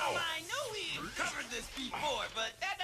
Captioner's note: none